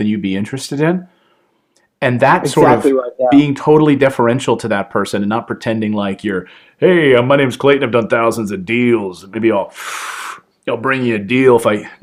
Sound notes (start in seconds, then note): 9.7 breathing in pretending to smoke